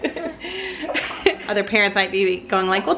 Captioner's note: laughing